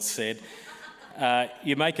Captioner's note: woman laughs